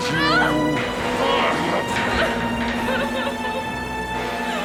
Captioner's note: Cathy crying